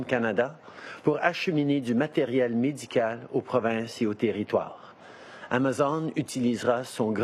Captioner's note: speaking French